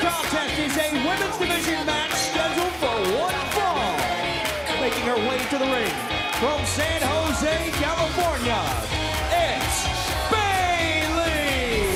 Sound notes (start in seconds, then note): 1.1 bell ringing